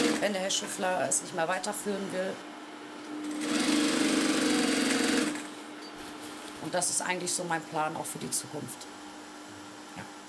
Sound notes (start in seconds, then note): 3.2 sewing machine whirring